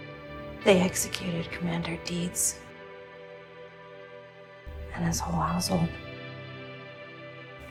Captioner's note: voiceover